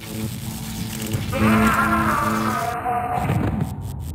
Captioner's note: screams